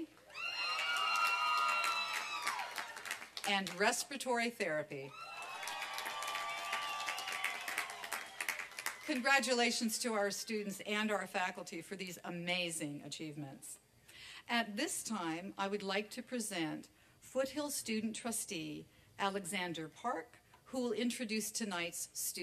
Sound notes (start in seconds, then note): 0.2 applause and cheering; 5.1 applause and cheering